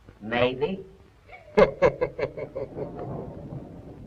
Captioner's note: laughs